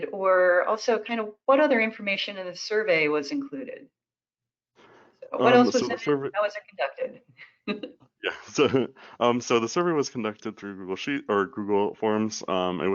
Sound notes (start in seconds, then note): 8.2 chuckles